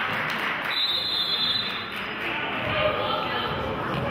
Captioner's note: whistle blows